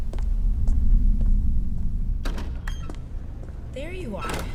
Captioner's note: Yoba’s footsteps moving down a stone corridor. A door opens into an atrium